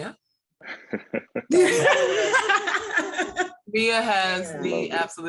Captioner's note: laughing